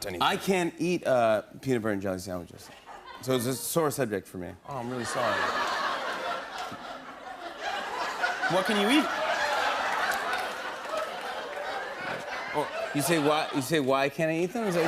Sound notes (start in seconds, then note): 5.6 laughter; 9.7 laughter; 14.3 laughter